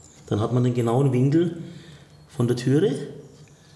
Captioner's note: none